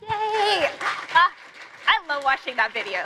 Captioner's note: applause